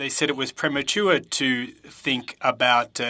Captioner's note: speaking French